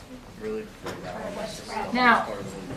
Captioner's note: students chatter